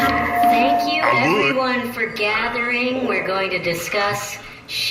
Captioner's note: microphone feedback